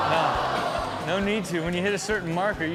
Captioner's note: audience oohs